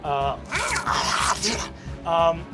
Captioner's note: snarling and scratching